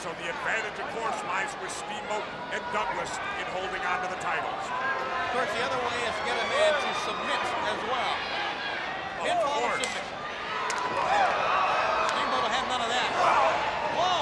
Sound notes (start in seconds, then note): 10.0 blows thudding